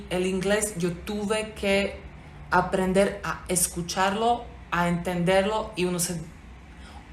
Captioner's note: spoken english